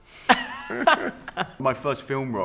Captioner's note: laughter